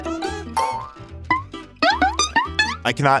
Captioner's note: whimsical sounds